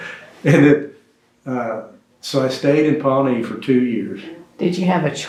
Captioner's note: laughs